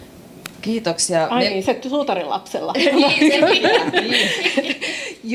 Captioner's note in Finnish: naurua